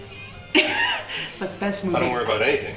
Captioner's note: laughs